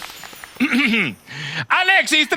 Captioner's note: delicate cough